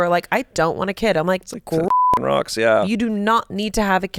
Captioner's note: beep